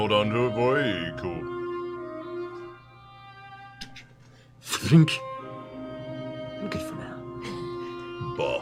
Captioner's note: thunk